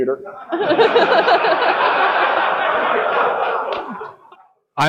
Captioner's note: audience laughing